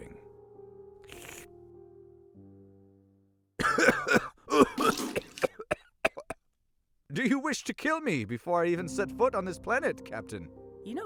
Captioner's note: coughs and spits drink